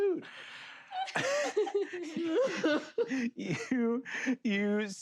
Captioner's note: players laughing